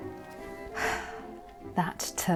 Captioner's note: sighs